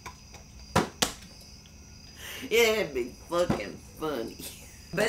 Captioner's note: laughs